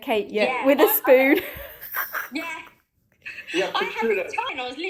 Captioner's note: laughter